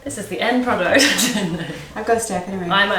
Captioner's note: both laugh